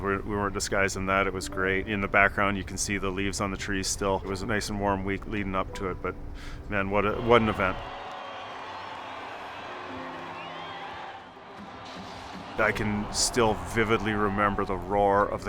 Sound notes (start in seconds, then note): 8.6 audience cheering; 11.8 fire roars